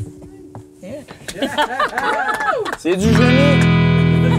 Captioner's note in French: Rires